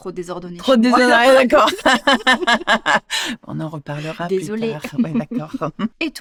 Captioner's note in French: rires